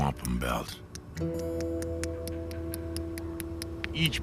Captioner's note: tapping